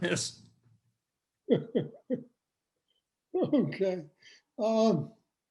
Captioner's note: laughs